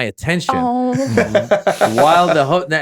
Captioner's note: Justin laughing